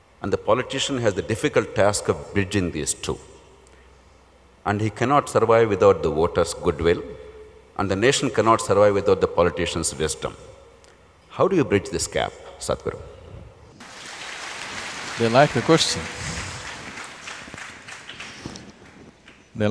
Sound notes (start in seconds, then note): 13.8 applause